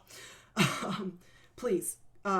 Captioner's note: laughing